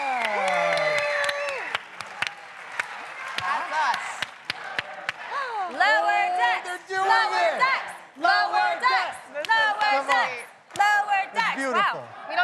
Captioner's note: cheers and applause